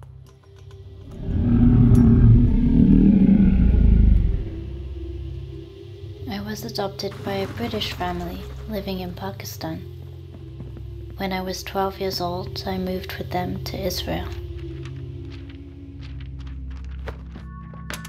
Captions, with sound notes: [Frightening growl] I was adopted by a British family living in Pakistan. When I was 12 years old, I moved with them to Israel. [Paper rustles]